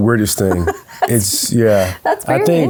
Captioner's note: laughing